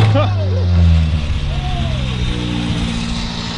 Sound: crunching; yelling

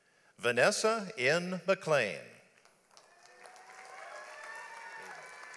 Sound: audience applauds

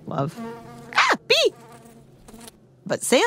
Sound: A bee buzzes right

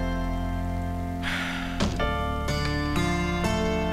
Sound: sighs

